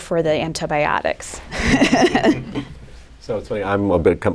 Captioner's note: laughter